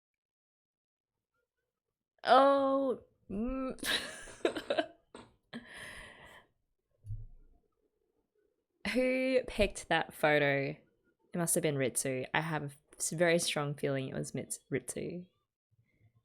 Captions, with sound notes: Oh! Mm! [laughs] Who picked that photo? It must have been Ritsu. I have a very strong feeling it was Ritsu.